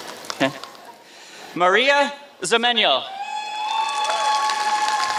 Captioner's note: applause